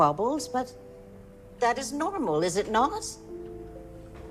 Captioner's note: none